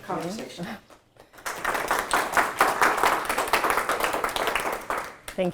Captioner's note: applause